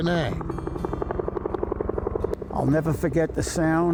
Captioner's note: helicopter whirring